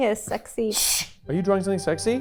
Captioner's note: shushing